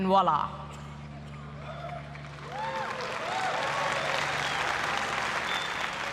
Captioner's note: applause